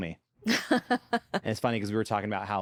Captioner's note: laughs